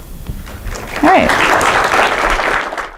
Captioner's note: applause